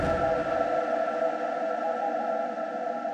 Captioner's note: the sound of interference